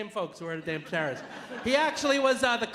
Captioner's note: audience laughing